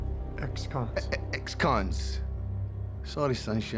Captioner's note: scottish accent